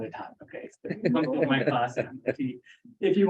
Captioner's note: laughter